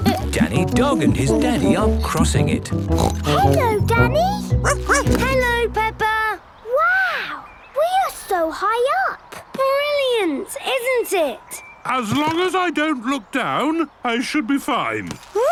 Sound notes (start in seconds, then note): 2.8 snorts; 4.6 barks